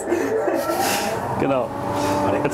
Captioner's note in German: Sauggeräusch